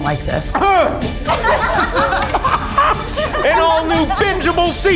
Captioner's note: choking; chefs laughing